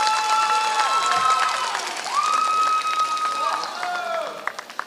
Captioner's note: applause